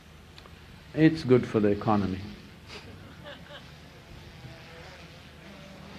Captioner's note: laughter